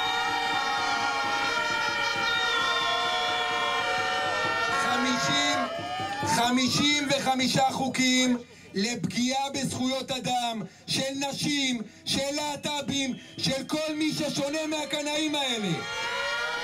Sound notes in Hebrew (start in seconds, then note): 4.9 קריאות הקהל